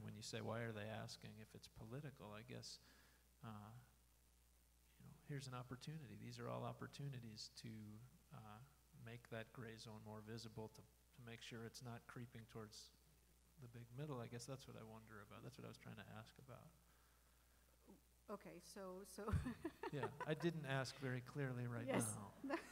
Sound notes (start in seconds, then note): 19.3 laughing